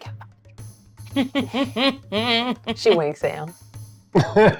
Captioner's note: chuckles